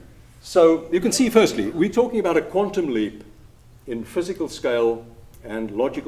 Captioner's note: laughter